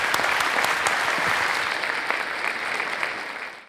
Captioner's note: audience applause